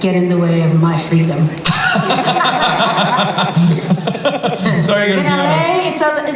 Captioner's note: laughter